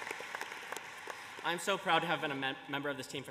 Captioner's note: applause